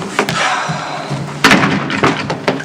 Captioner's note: door closes